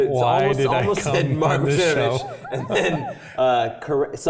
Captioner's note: laugh